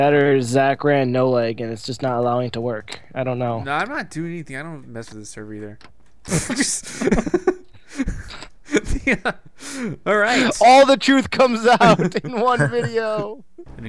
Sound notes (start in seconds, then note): 0.2 voiceover; 6.3 laughs; 10.8 voiceover